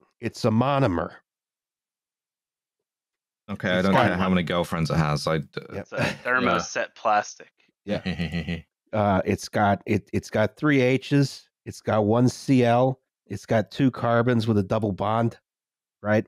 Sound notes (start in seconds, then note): 8.0 brief laugh